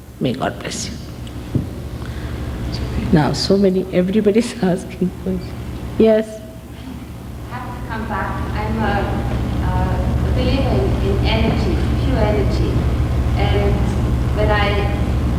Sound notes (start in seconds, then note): 4.8 laughing